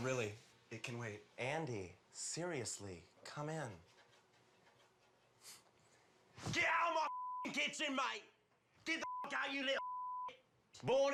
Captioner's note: sniff